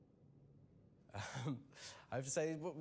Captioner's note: laughs